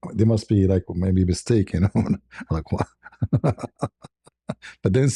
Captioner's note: ketawa